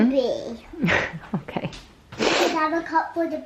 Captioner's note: laughs